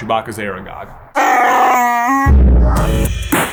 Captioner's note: Wookie noise; outro Music